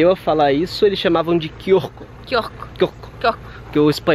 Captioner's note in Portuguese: falando quiosque com sotaque